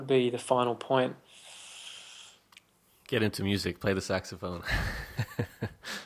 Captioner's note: laughs